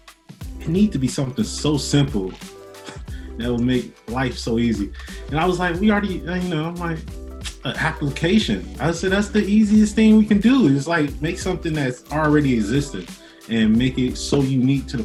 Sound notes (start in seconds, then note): 2.9 chuckles